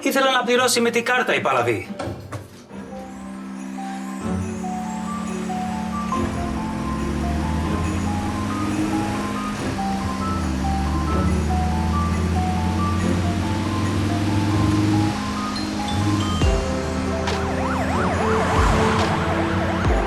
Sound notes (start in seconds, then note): 0.1 Niko speaking foreign language; 3.1 mellow music continues; 6.3 car engine roaring; 16.3 siren wailing